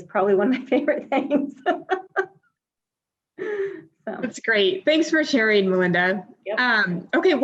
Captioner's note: laughs